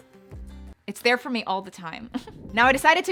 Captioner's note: giggles